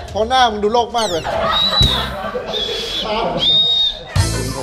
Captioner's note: laughs; whistle blowing